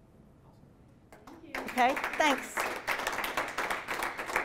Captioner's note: applause